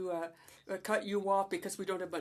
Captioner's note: speaking French